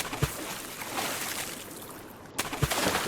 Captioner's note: splashing